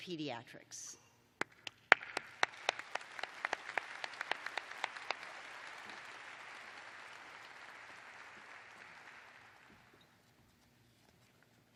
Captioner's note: applause